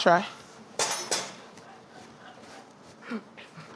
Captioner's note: laughs